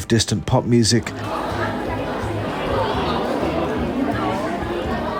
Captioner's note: crowd talking